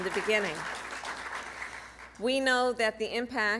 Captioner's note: applause